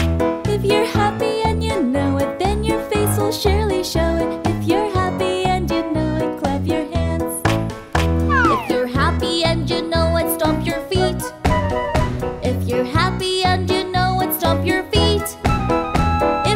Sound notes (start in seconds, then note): 0.0 clap, clap!; 7.6 clap, clap!; 11.3 stomp, stomp!; 15.5 stomp, stomp!